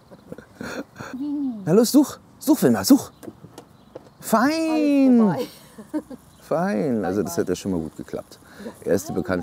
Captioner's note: laughter